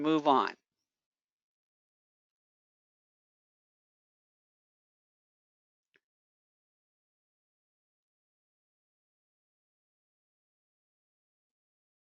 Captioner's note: 10 seconds pause